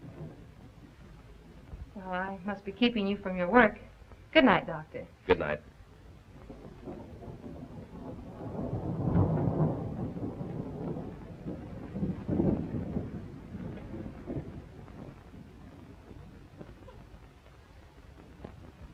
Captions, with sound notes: - Well, I must be keeping you from your work. Good night, doctor. - Good night. (thunder rumbling)